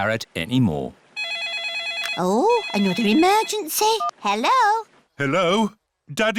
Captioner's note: phone rings